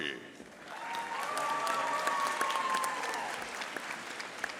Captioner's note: audience applauding